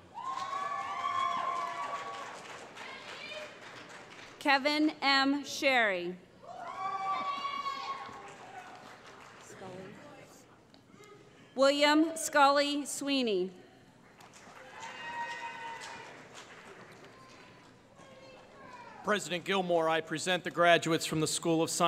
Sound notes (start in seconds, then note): 0.0 cheering; 6.4 cheering; 14.5 cheering